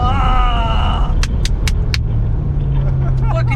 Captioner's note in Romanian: claps